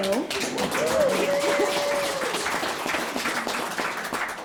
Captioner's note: audience clapping